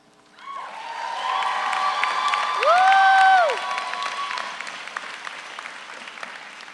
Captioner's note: all cheer; all applaud